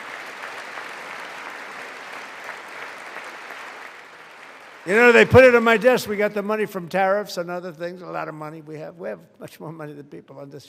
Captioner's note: applause